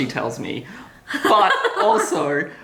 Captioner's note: laughter